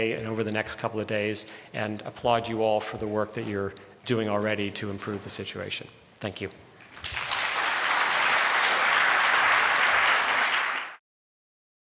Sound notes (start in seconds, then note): 6.8 applause